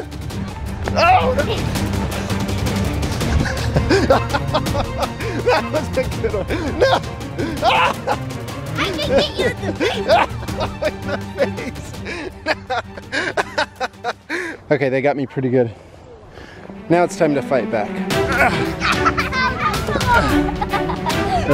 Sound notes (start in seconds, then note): 0.1 energetic, fast-paced music; 3.0 father laughs; 7.2 yells; 12.9 laughs; 18.2 children laughing